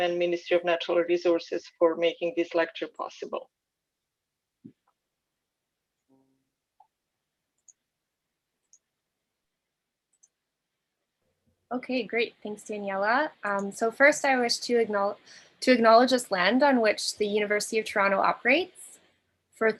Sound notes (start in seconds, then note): 7.2 mouse clicking